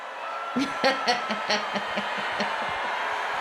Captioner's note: laughs